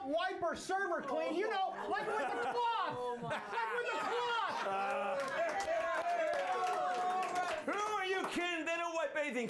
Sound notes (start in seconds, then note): 7.6 applause